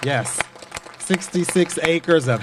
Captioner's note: applause